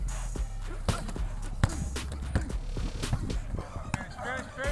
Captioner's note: grunting